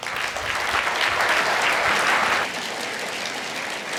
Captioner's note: applause